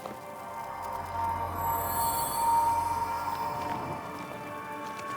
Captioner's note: magic shimmering